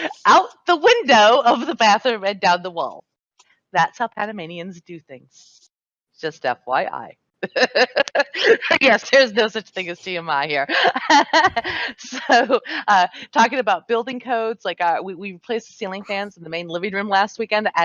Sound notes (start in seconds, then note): 7.5 laughs; 10.8 laughs